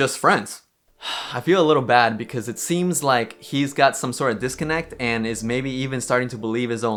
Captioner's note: sighs